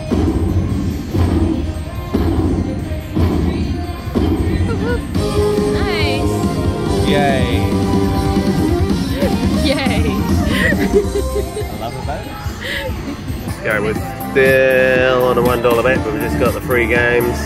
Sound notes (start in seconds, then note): 8.9 laughing